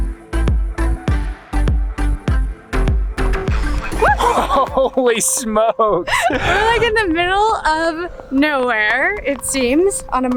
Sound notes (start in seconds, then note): 4.0 both cheers